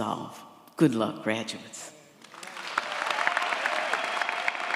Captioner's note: audience applauds